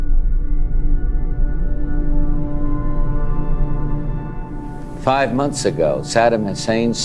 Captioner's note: soundbite of archived recording